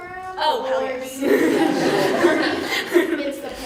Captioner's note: laughter